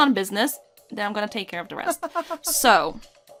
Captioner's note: laughs